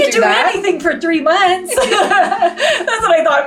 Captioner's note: both laughing